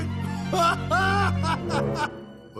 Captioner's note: laughs